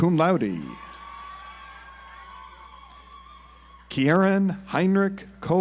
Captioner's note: audience applauds